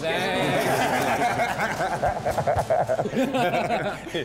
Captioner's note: all laughing